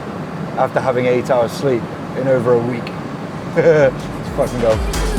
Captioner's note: laughs